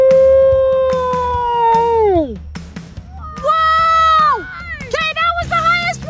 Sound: slow-mo voices

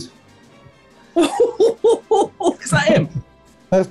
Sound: chortling

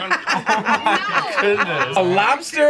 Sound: laughs

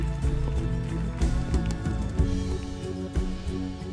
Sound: applause

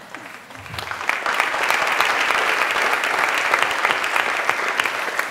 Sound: applause

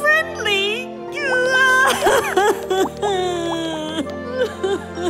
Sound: sobbing

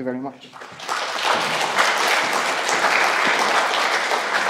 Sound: audience applauding

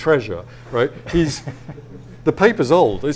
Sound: audience laughs

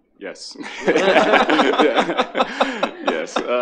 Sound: attendees laughing

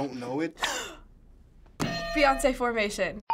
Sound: gasping; ding; hitting bell

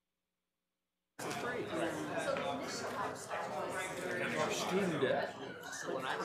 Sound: people chattering distantly

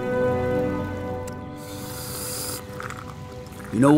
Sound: slurping

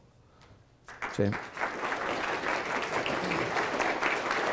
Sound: applause

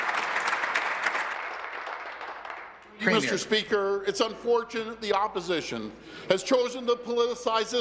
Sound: applause

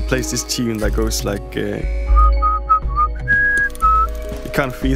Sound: whistle

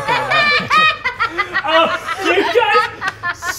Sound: laughing

